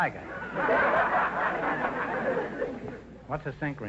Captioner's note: audience laughter